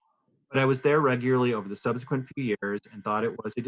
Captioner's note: interference